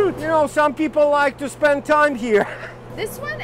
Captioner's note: chuckles